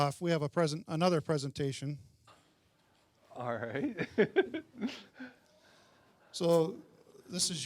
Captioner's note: laughing